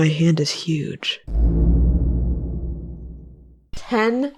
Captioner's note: ominous boom